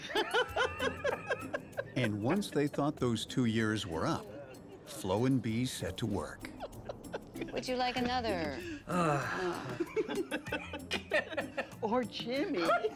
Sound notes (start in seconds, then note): 0.0 both laughing; 8.7 Frank sighing; 10.3 both laughing